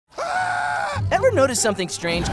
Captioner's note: screaming